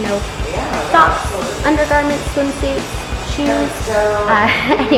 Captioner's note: chuckles